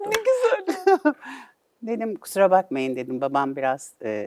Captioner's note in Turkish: kahkaha